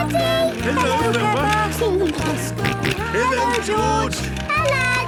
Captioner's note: George giggling and snorting